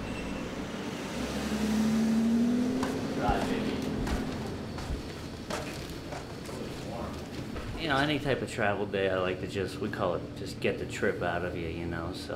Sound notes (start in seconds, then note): 0.0 ambient traffic noise; 3.1 chatter